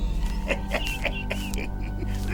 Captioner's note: coughing